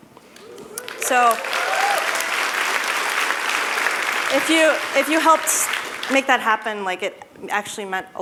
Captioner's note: applause